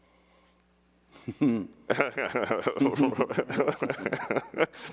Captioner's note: both laughing